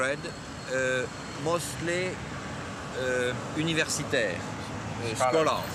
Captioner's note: speaking in foreign language